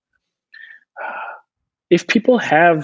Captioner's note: huffing